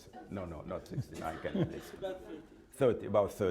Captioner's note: laughter